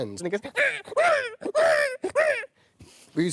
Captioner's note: chimp noises!